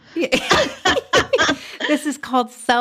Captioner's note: laughing